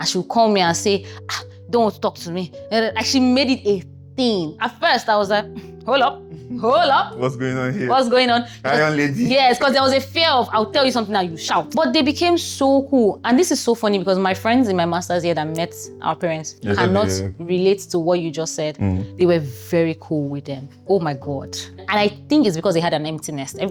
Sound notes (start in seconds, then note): 8.7 laughs